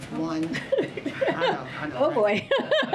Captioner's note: laughs